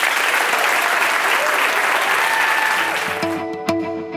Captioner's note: applause